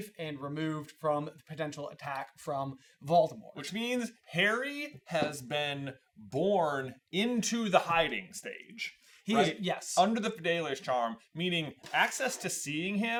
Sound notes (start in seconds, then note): none